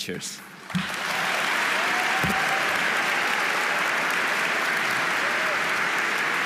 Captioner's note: audience applauding; audience cheering